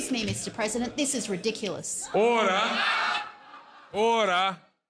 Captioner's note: loud voices; loud laughter